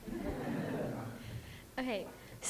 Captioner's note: laughter